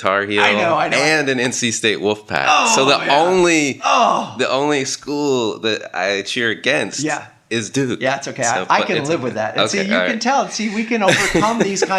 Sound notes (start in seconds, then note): 3.8 groans